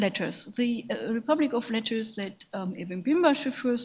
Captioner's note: speaks in a foreign language